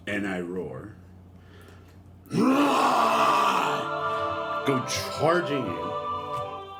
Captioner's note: roars